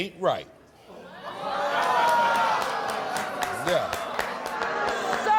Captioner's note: crowd groans with shock